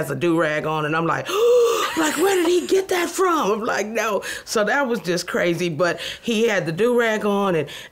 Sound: gasps

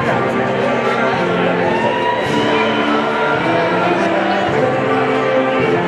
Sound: people chattering indistinctly

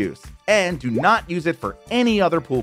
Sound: graphics popping

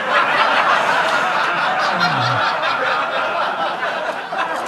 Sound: audience laughing

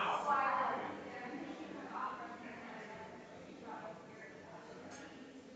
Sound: people chattering distantly continues

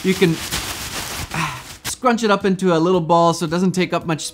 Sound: ruffling

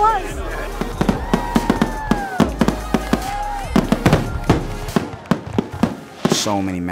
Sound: fireworks

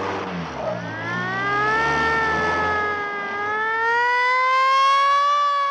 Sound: siren wailing

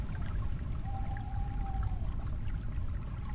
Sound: bird hoots

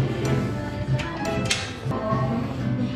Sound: door open

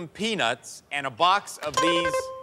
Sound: bell chimes

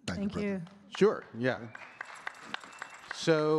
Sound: audience clapping

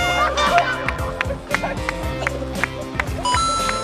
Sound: having trouble breathing

